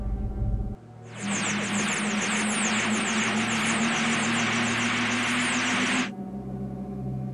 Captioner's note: TARDIS sound in flight